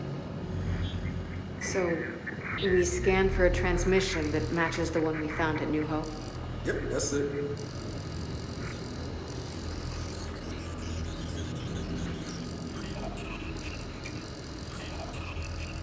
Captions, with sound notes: So, we scanned for a transmission that matches the one we found at New Hope? - Yep, yes, sir. (phone ringing)